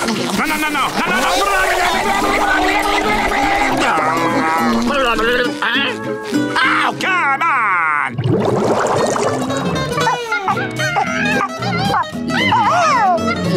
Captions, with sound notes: No no no no! [yelling] [groaning] Huh? Oh come on! [monkey noises]